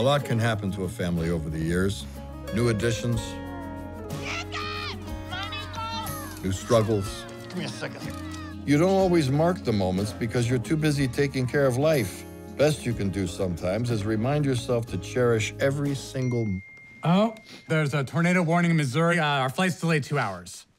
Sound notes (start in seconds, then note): 3.4 cooing; 16.2 cellphone chimes; 17.2 sniffles